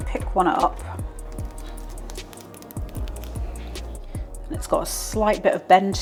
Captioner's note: crispy tapping